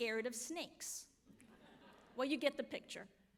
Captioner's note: audience laughs